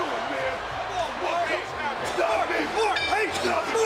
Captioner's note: all yelling